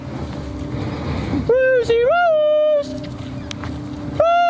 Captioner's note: high pitched shout